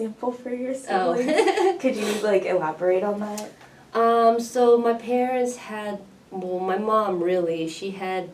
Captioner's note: all laugh